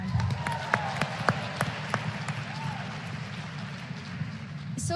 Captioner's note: applause